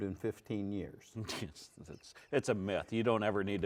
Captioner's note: snickers